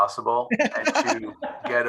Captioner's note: all laughing